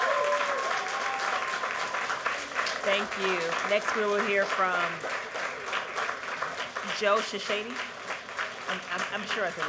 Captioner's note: cheering